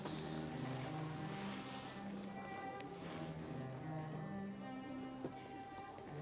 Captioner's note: classical cello music; chattering